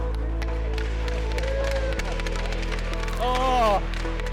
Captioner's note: slapping sticks on ice